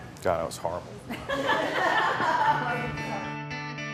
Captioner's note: laughing